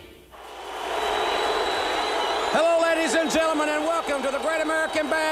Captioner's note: crowd cheering